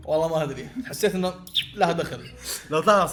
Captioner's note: laughs